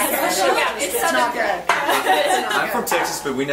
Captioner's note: group laughs